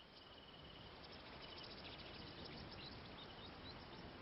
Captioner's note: birds chirping